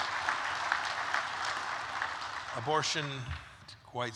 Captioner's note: applause